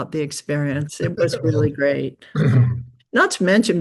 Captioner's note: chuckles